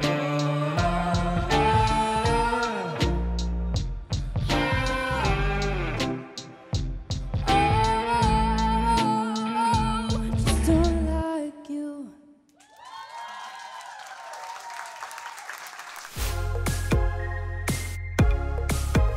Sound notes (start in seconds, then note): 12.6 applause; 16.2 upbeat music